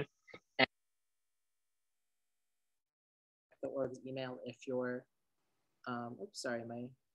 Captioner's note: audio Cuts